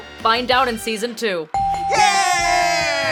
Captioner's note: dinging